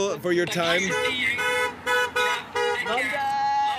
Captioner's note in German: Hupen